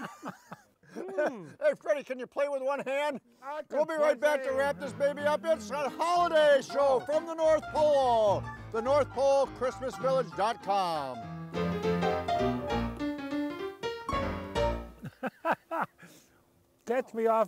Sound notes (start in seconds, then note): 10.8 lively ragtime piano music; 14.9 laughing